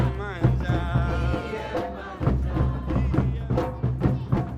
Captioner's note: crowd